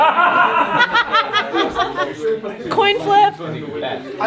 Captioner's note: everyone laughing